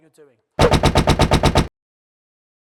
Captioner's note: typewriter keys sound